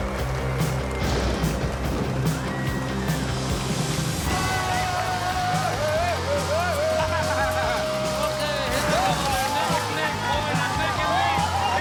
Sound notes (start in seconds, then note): 1.0 thunder; 4.2 screaming; 6.8 laughing; 8.4 cheering